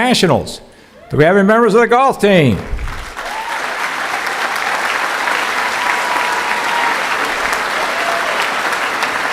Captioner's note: cheering